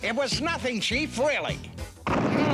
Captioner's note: engine rumbles